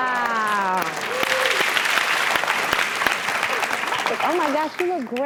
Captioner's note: applause